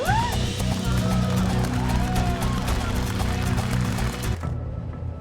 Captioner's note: cheers and applause